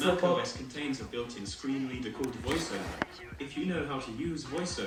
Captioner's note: macbook interrupts me again